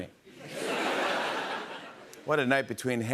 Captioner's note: laughter